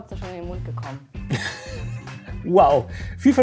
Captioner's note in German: Er lacht